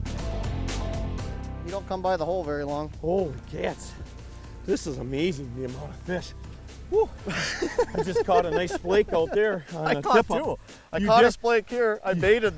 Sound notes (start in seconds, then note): 6.9 laughing; 7.1 sigh